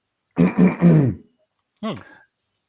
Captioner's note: coughing